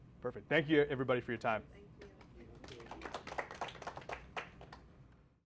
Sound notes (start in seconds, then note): 2.5 audience applauding